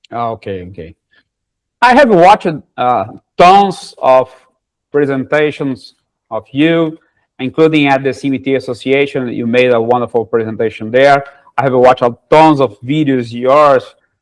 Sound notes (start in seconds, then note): none